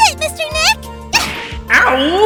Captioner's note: punch!